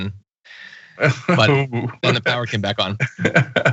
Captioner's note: laugh